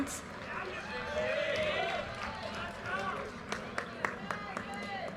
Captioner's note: audience cheers and applause